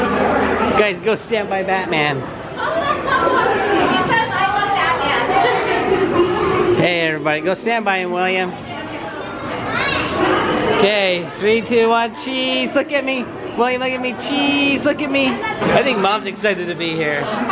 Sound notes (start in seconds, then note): 5.2 laughing